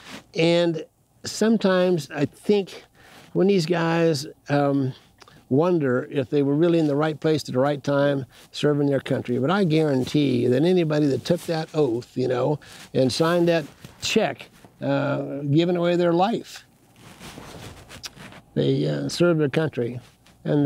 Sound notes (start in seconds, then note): none